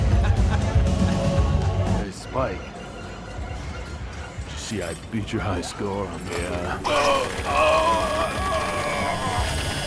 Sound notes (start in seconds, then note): 8.0 bones crunch